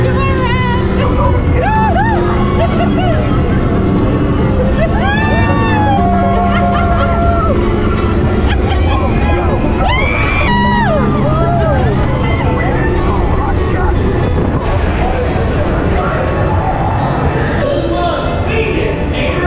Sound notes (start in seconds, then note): 0.0 cars roaring; 0.2 upbeat music; 1.6 giggling; 1.9 upbeat music; 3.1 giggling; 3.6 cars roaring; 4.9 screaming; 7.0 cars roaring; 7.0 gentle upbeat music; 11.3 upbeat music